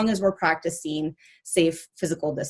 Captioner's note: none